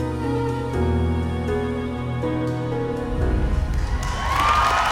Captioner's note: cheers and applause; music fades